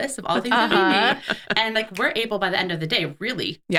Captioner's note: laughing